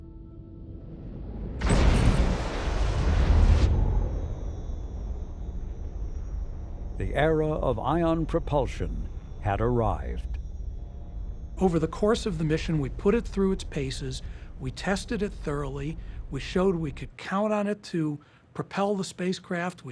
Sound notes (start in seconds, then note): 1.6 beam blasts